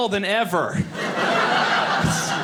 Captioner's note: audience laughing